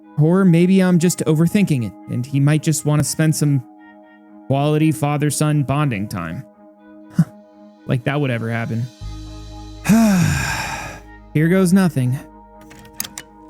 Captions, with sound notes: Or maybe I'm just overthinking it, and he might just want to spend some “quality father-son bonding time” (sighs) Like that would ever happen.. (deep breath) Here goes nothing.